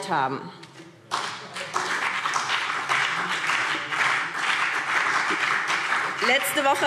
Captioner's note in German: Beifall BÜNDNIS 90/DIE GRÜNEN und vereinzelt CDU